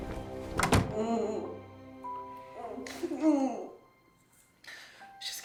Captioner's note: Meg grunting